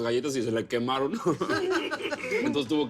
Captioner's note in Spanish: Risas